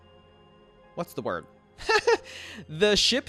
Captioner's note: laughs